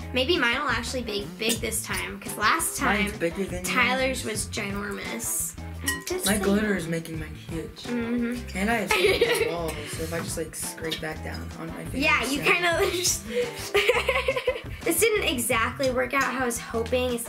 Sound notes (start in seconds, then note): 13.2 laughs